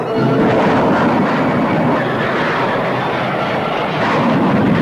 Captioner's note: plane engines roaring